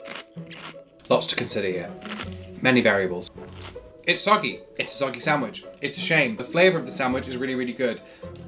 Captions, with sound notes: (lettuce crunches) Lots to consider here. (lettuce crunches) Many variables. (lettuce crunches) It's soggy. It's a soggy sandwich. It's a shame. The flavor of the sandwich is really, really good.